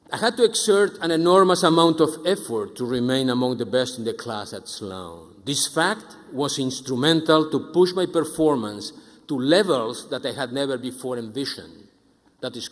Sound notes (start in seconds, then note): none